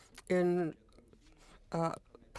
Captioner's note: speaking French